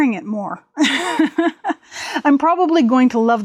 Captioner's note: laughs